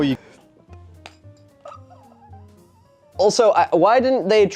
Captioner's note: shocked silence